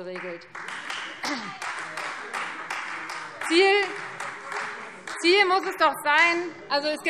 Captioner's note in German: Beifall Freie Demokraten